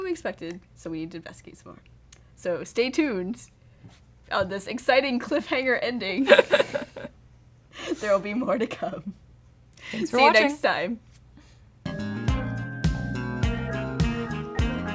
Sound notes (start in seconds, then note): 6.2 laughter